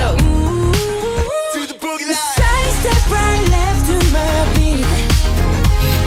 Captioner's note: heartbeat